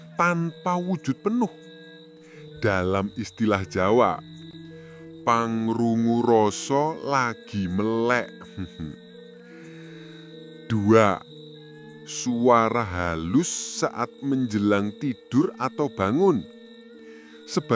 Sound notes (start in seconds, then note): 8.2 the sound of a ghost in the ear